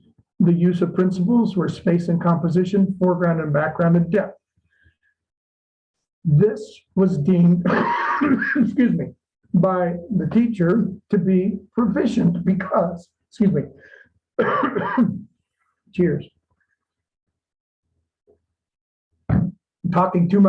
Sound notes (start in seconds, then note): 14.3 coughs